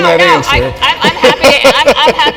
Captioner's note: laugh